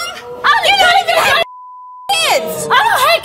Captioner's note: beep